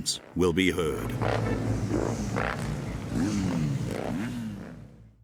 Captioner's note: engines revving